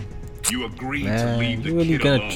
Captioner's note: tongue smack